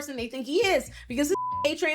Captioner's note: beep